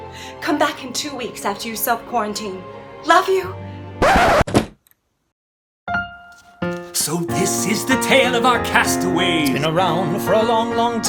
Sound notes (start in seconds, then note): 4.0 record scratch; 4.1 door closing; 7.1 singing